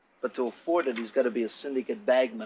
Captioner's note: none